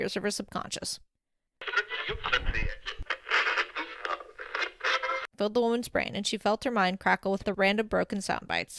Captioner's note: radio tuning